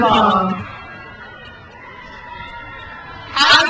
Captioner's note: crowd cheers